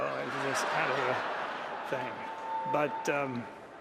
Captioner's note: laughter